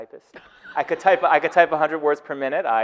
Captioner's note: audience laughing